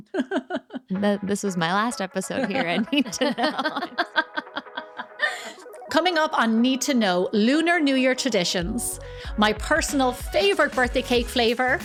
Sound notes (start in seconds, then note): 5.2 laughing